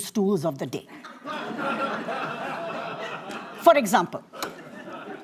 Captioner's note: laughter